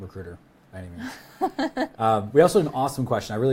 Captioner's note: laughs